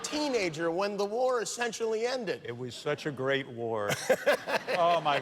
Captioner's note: laughter